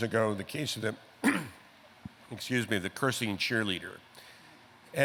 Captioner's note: clearing throat